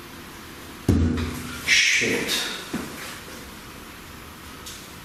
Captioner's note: loud banging